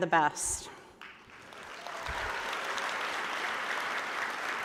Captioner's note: applause